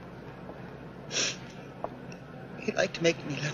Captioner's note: Sylvia sniffling